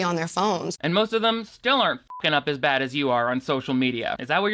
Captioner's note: beep